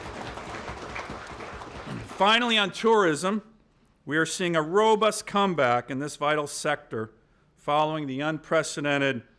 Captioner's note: applause